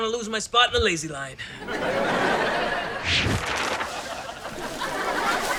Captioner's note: audience laughter